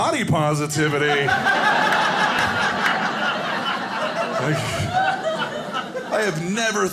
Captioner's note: audience laughing